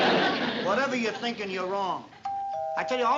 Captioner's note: doorbell ring